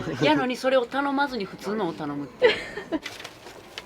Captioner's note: laughs